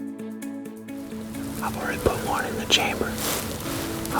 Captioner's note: whispering